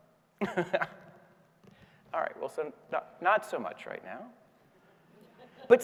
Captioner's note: laughs